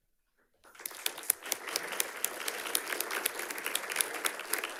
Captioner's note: audience clapping